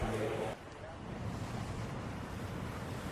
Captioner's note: traffic sfx